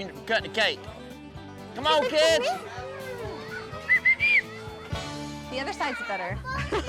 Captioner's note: whistles